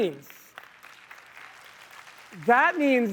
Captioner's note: applause